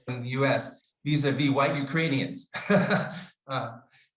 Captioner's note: laughs